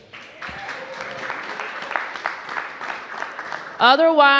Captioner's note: cheers and applause